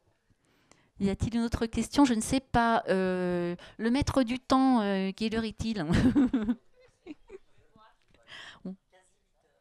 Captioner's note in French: ils rient